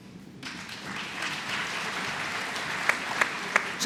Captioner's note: applause